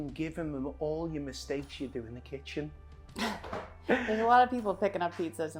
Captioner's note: laughs